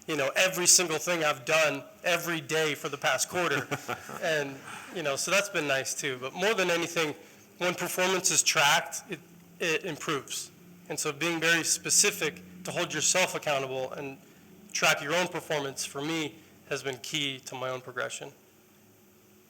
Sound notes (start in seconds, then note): 3.2 laughter